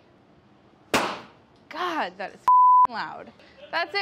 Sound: pop

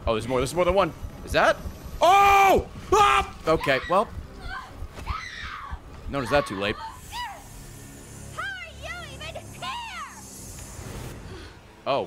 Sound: screams

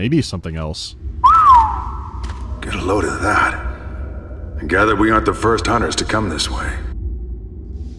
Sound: whistles

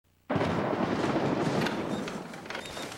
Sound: thunderclap

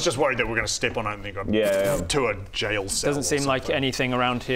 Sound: pfttpft

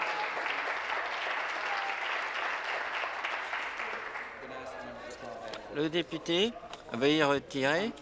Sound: applause

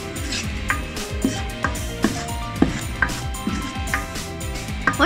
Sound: scrambled eggs sound

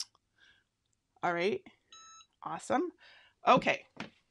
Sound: EasyPress beeping

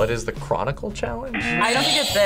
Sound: buzzer; buzzer rings

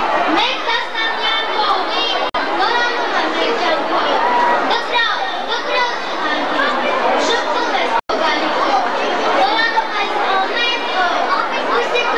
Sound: children reciting some poetry

